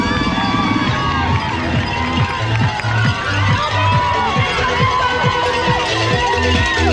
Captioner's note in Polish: Aplauz